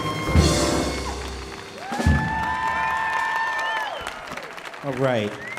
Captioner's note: audience applauding and loudly cheering